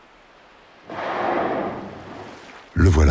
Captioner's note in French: Rorqual qui souffle